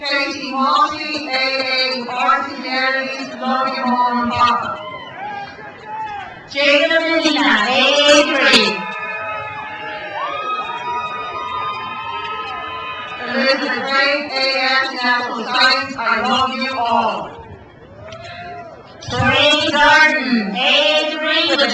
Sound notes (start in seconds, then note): 5.0 man yells; 8.7 crowd cheers